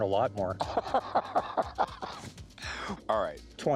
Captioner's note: chuckling